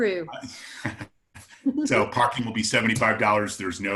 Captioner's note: laughing